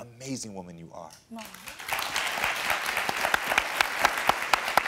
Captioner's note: audience applauding